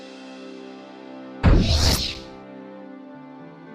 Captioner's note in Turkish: Işınlanma sesi